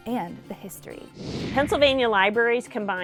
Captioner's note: computer whooshing